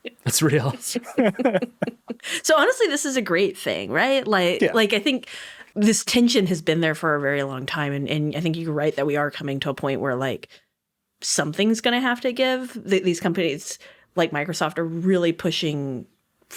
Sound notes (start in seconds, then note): 0.4 chuckling; 0.4 chuckles; 0.4 chuckling